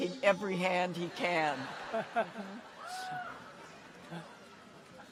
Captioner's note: audience laughs